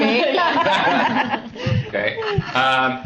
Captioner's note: laughs